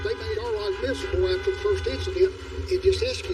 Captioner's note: honking connues